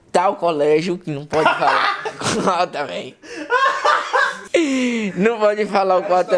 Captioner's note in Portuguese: pura gargalhadas